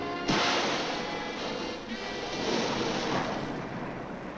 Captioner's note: water splashing